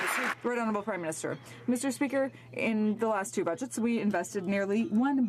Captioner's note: some Applause